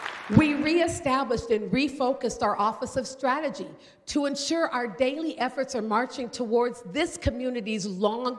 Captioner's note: applause